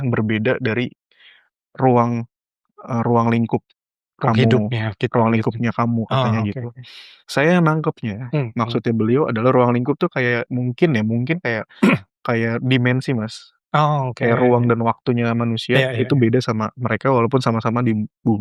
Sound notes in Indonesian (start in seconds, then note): 11.6 berdehem